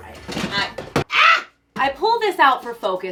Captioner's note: dramatic scream